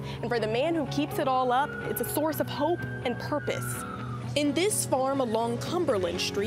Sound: none

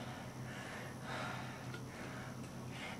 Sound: exhaling slowly

